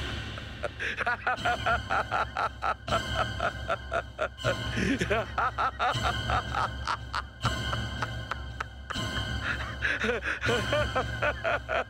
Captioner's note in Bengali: সশব্দ হাসি